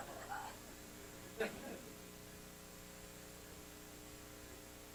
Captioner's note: laughter